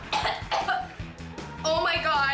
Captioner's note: pet owner choking